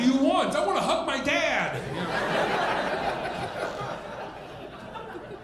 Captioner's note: audience laughing